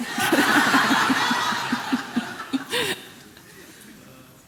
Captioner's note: laughing together